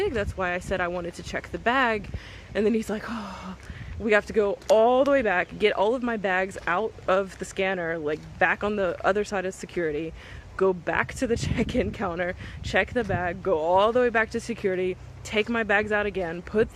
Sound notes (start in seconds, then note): 3.0 sighs